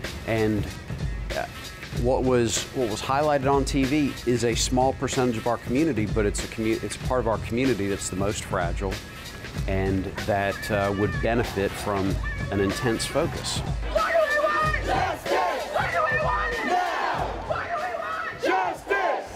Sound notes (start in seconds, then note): 13.3 crowd chanting